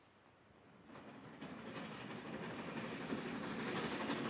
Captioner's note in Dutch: trein passeert